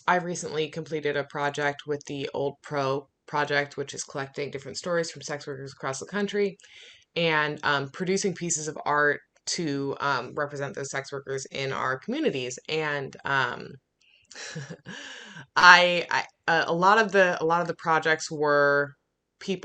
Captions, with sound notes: I've recently completed a project with the Old Pro Project, which is collecting different stories from sex workers across the country and producing pieces of art to represent those sex workers in our communities. And (laughing) a lot of the projects were people,